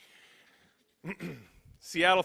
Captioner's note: clears throat